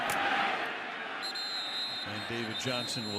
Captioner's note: whistle